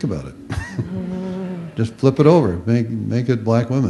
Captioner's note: chuckles